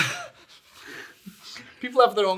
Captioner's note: all laughing